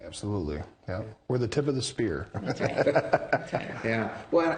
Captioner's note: laughing